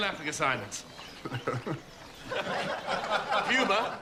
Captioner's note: chuckling